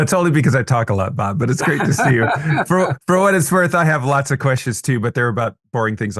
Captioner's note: laughter